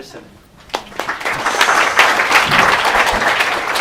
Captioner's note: applause